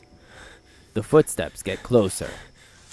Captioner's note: the footsteps get closer